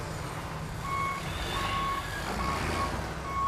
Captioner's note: loader beeping